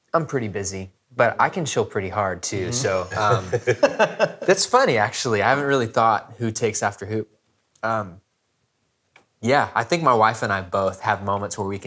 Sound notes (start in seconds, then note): 2.6 laughs